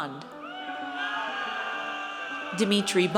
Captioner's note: audience cheers